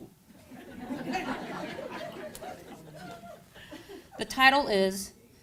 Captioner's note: crowd laughing